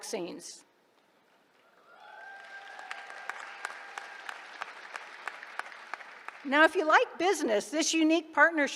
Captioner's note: applause